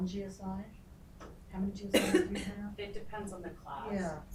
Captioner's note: woman coughing